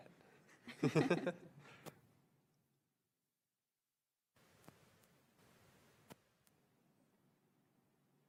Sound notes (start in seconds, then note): 0.6 laughs